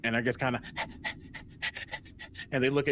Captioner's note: panting